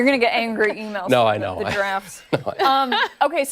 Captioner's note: laughter